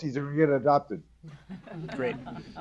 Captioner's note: laughter